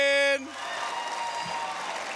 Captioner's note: cheers, applause